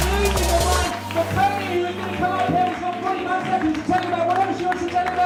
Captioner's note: clapping and shouting